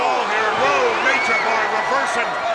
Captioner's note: blows thudding